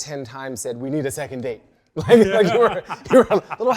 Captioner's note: guests laugh